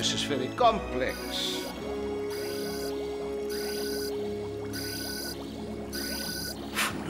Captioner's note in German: Signal ertönt wiederholt